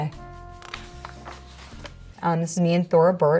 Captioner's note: page rustles